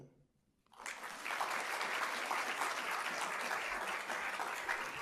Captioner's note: applause